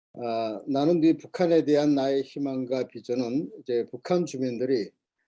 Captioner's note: speaking Korean